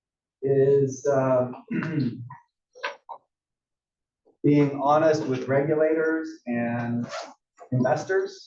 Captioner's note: cough